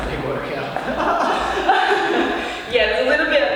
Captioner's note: laughs